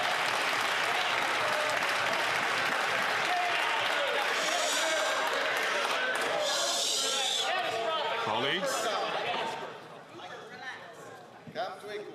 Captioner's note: some Applause